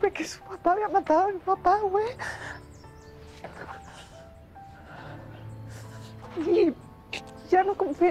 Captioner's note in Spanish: Solloza